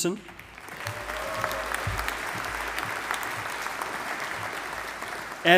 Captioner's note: audience applauding